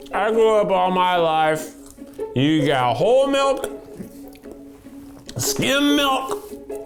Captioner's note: none